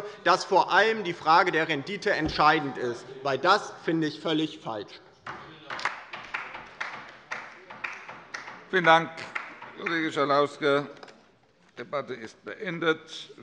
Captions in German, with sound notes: dass vor allem die Frage der Rendite entscheidend ist. Das finde ich völlig falsch. [Beifall bei der LINKEN] Vielen Dank, Kollege Schalauske. - Die Debatte ist beendet.